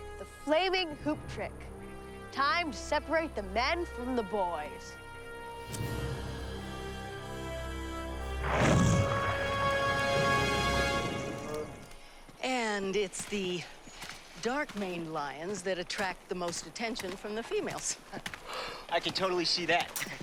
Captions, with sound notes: The flaming hoop trick, time to separate the men from the boys. (Sage growling) (dramatic tense music) - And it's the dark-maned lions that attract the most attention from the females. - I can totally see that.